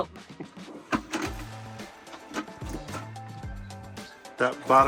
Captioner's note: drawers clattering